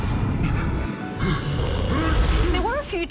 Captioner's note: sneezes